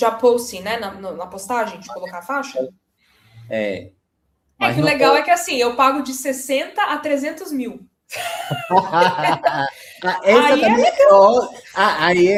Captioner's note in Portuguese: risadas